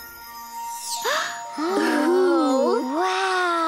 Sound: gasps

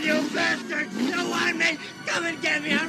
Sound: engine revving

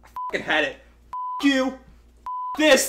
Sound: beep

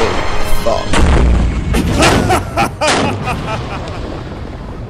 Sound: evil Laugh

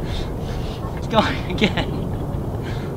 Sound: laughs

